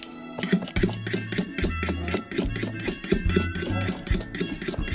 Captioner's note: bright rattling; drum sticks scraping